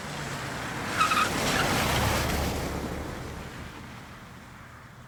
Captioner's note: tires skidding